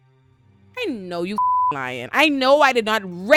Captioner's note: beep